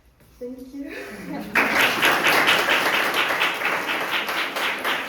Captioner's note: audience applauding